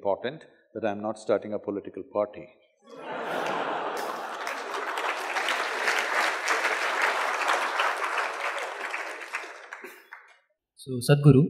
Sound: laughter/Applause

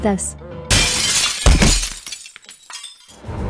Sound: glass shattering

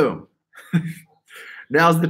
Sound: laughs

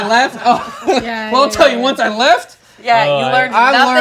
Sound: chuckles

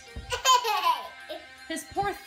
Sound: laughing

